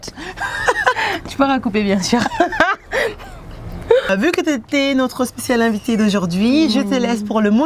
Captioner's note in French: rires